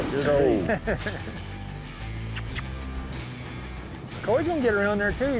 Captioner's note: makes kiss sound